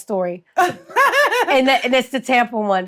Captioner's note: Treasure laughs